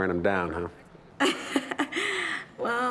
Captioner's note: laughs